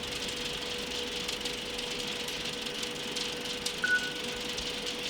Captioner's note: film Projector Whirring